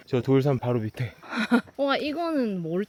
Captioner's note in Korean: 씁쓸한 웃음